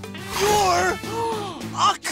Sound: gasping

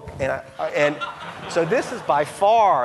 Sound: audience laughing

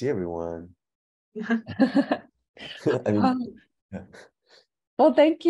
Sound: laughing

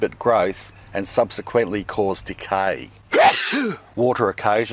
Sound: sneezes

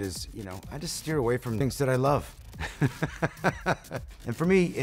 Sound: laughs

